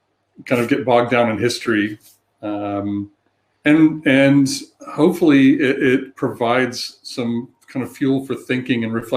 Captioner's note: erm